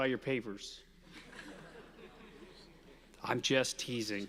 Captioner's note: audience laughing